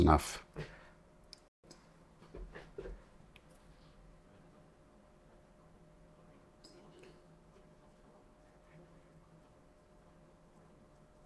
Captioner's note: silence